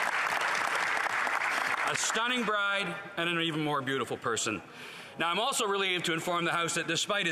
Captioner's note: applause